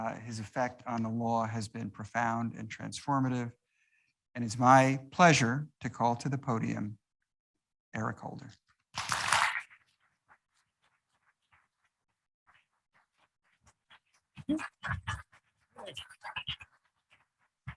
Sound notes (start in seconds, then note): 8.8 audience applauds